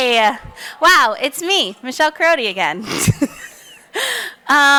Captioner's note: chuckles